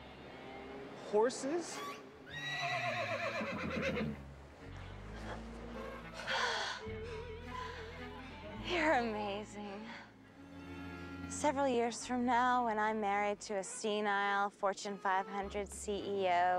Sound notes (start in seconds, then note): 2.2 horse neighing; 4.8 sighs